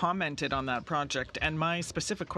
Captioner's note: speaking French